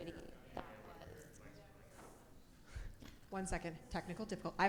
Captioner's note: people chattering